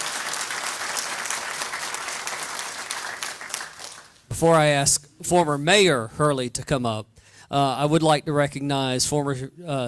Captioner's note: applause